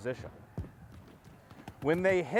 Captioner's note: distant battle noises